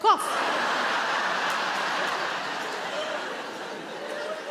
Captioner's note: audience laughing